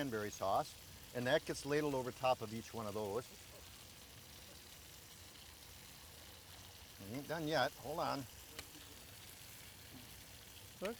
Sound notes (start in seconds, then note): 3.0 grill sizzling; 7.9 grill sizzling